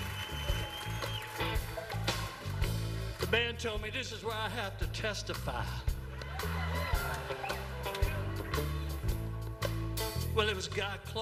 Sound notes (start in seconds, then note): 8.7 laughter